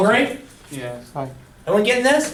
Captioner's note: voiceover